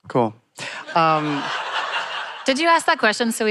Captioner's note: laughter